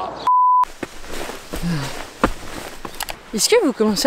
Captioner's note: grunting